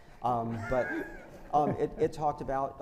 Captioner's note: panelists laugh